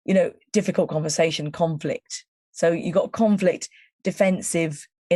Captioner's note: none